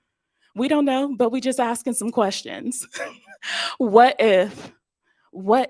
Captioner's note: laughs